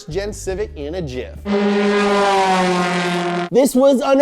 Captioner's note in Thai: เสียงคำรามของเครื่องยนต์